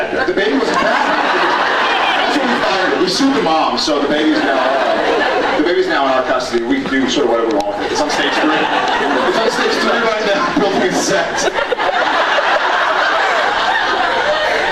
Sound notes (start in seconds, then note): 1.6 laughs; 3.4 laughs; 6.2 laughs; 8.9 laughing; 11.2 laughs